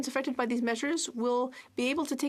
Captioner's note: speaking French